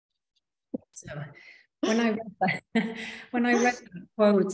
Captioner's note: chuckling